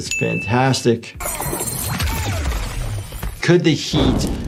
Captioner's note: Omni-Man grunts; explosion rumbles